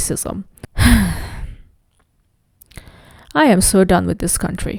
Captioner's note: sighs